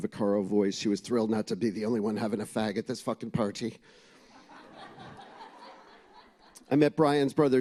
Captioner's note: laughter